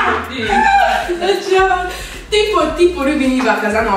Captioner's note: laughing